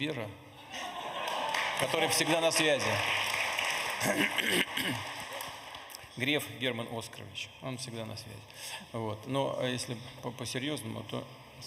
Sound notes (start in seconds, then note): 8.4 laughter